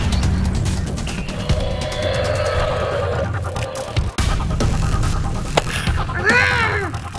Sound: roaring

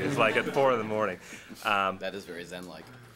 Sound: laughing

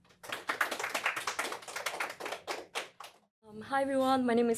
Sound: audience clapping

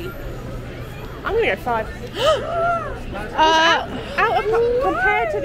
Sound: gasps

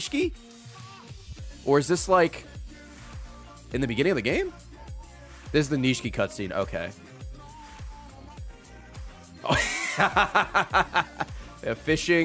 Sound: laughs

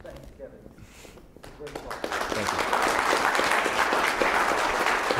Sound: applause

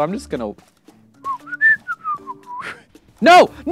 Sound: whistles

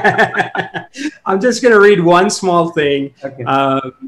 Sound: laughter

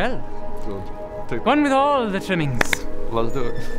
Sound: clap clap

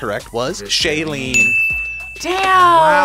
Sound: bell rings

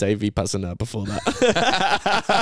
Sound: laughing

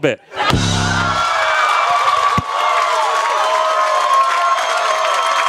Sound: audience laughing and cheering

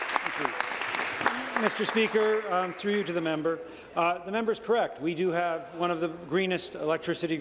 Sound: applause

